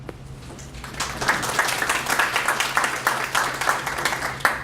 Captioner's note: applause